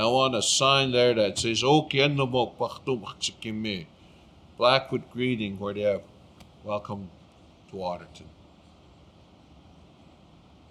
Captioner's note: speaking Blackfoot